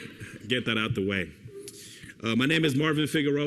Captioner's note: laughter